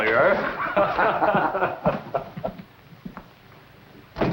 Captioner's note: laughter